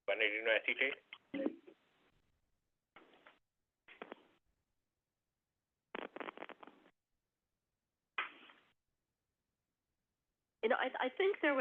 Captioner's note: silence